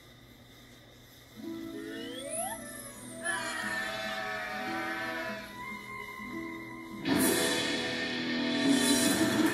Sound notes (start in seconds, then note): 3.1 bleating; 6.9 action music